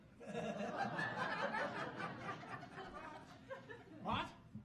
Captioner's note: audience laughing